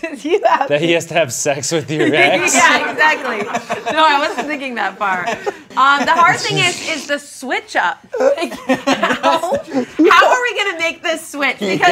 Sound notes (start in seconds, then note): 1.8 all laughing; 8.2 laughs